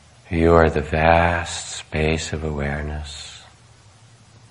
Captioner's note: none